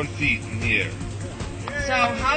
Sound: cheers

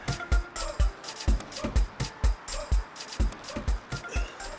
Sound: exhales

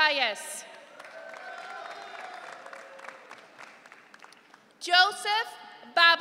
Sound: audience cheering

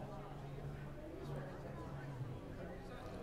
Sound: low hum of chatter outside

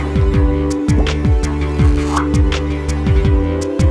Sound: low pop followed by shrinking sound and a higher pop

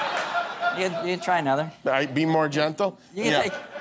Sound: laughter

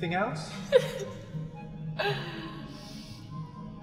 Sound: gasps for breath

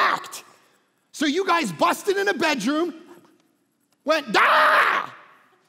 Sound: yells

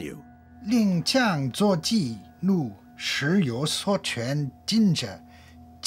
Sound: speaks in foreign language

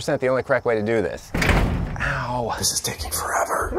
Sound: door rattles

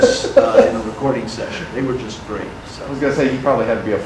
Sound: audience laughter

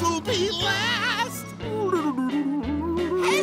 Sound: humming

